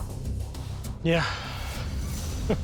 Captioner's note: exhales; chuckles